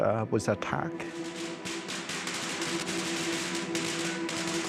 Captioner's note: guns shooting